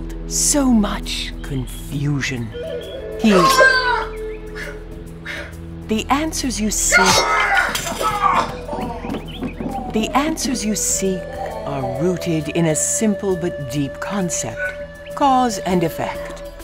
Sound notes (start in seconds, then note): 3.5 loud cry and sword slice; 7.0 loud yell and crash